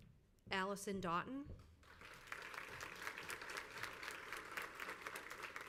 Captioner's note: crowd applauds